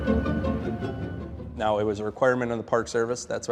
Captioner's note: heavy machinery beeping